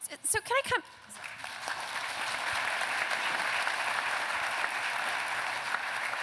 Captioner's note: applause